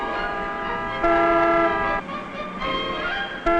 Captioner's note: horns honking